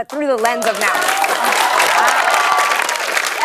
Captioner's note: cheers and applause